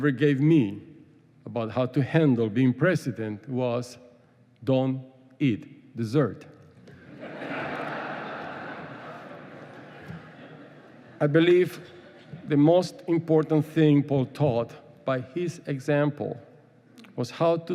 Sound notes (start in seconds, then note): 7.0 laughing